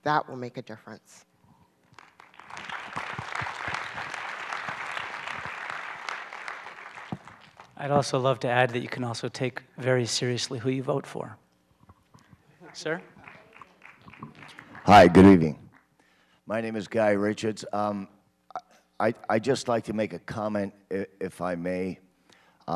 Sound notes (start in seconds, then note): 1.9 applause